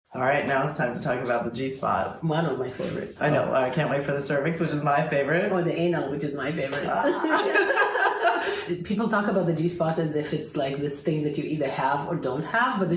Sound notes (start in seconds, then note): 7.0 both women laughing together